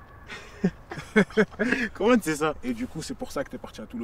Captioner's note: laughs